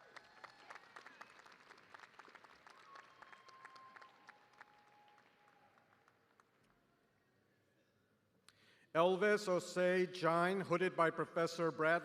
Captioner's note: applause